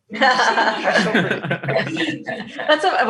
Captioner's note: laughs